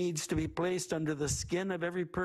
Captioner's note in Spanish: habla en ingés